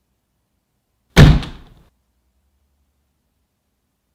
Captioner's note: silence; a thud, even louder than all the others; silence